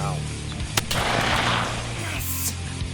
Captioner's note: gunshots firing